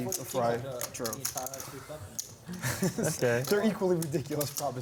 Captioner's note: laughter